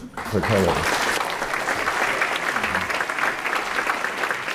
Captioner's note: applause